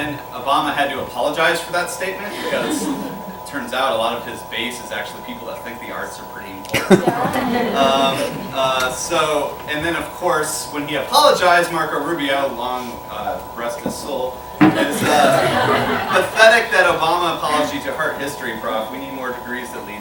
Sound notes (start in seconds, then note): 2.3 laughter; 6.7 laughter; 14.0 laughter